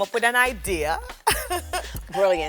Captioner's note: laughs